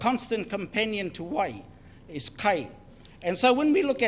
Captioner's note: foreign Language